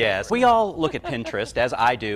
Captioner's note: laughs